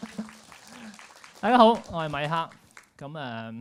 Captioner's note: applause; laughs